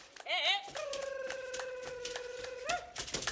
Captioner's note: hands clapping and beads rattling; shouting; hands clapping and beads rattling